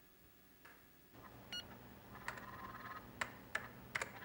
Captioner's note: beeps